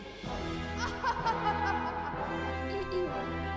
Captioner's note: evil laughing